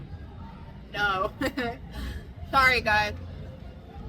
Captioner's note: laughs